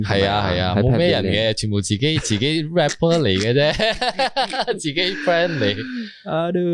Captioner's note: giggles